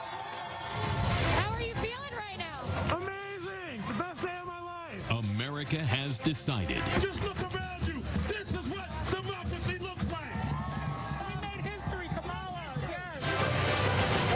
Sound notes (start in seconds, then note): 3.7 cheering